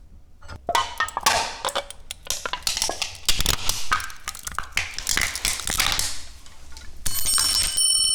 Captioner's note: metal can crunching